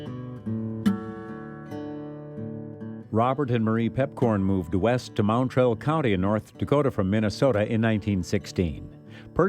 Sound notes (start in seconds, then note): 3.4 voiceover